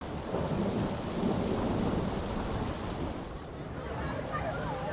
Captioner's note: rain falling; thunder striking; crowd protesting